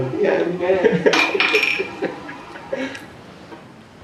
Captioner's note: laughing